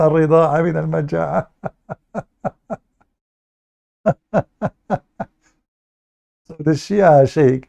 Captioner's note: Ketawa